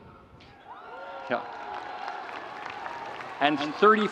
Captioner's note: audience cheering